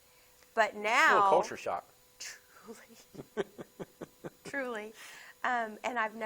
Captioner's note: laughs